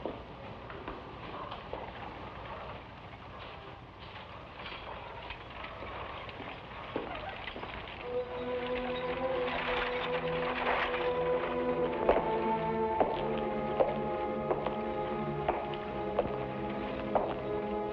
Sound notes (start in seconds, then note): 8.4 somber music; 12.1 shoes clack